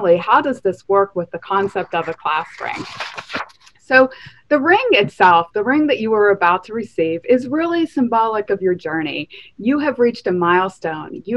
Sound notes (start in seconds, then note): 1.4 paper rustling